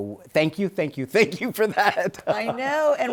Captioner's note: laughs